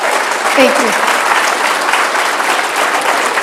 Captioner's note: applause